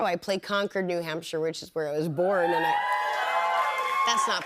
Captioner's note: cheers and applause